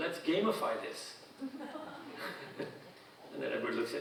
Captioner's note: audience laughing